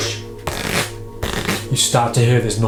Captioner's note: cards fluttering